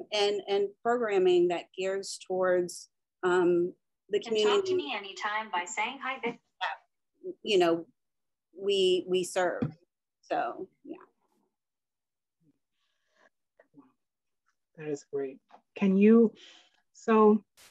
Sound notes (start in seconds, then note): 4.4 Robotic voice